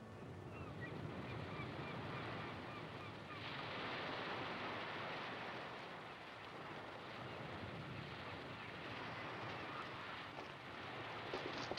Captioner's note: sound of ocean and seagulls